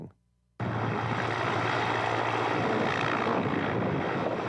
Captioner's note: helicopter rumbling